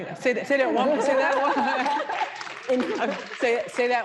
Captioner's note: audience applauding